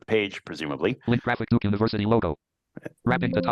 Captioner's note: computer voice